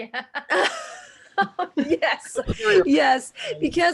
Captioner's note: laughs